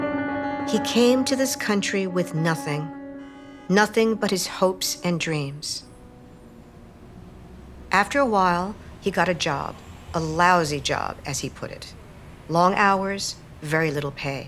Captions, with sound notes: He came to this country with nothing, (car horns honking) nothing but his hopes and dreams. (traffic humming) After a while, he got a job, a lousy job, as he put it. Long hours, very little pay.